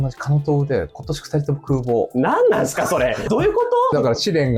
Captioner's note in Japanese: 笑い